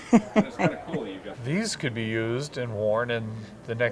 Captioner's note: chuckles